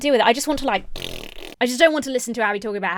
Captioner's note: blowing raspberries